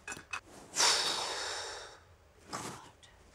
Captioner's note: Exhaling